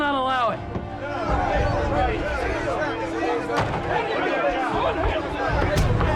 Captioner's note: men shouting